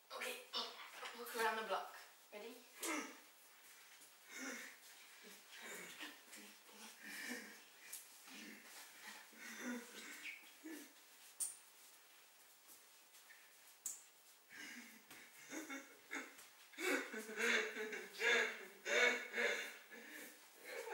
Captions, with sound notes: ok walk around the block, ready? *footsteps* *laughing*